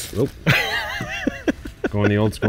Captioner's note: laughing